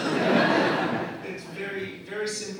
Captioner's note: audience laughing